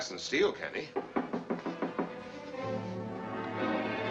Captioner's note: knocking on door